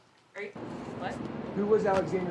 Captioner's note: street noises